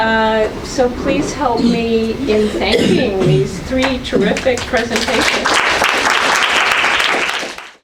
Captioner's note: audience applause